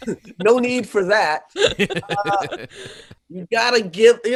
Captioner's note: laughing; laughing